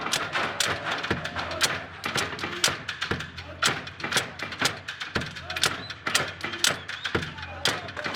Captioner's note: crowd whistles and cheers, breaks into chant